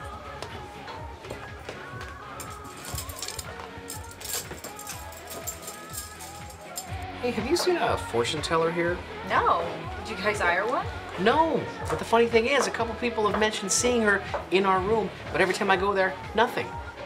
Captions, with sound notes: (chains rattle) - Hey, have you seen a fortune teller here? - No, did you guys hire one? - No, but the funny thing is a couple of people have mentioned seeing her in our room, but every time I go there, nothing.